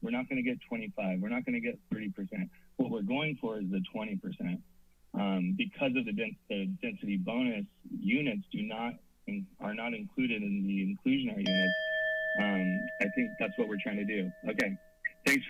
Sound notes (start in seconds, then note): 12.8 alarm sound